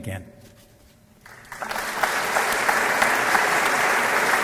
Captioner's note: applause